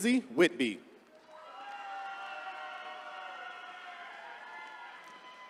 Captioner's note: attendees cheering